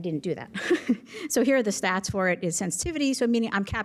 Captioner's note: laughter